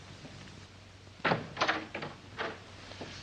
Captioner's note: door opens